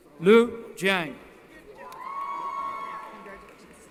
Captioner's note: cheering